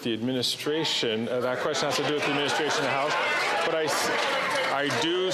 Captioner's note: applause